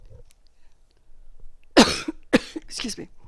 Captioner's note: cough